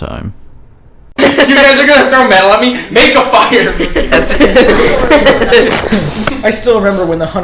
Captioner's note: joking and laughing